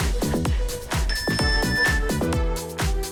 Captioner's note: timer beeps; cheerful music